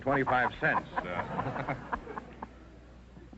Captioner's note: chuckling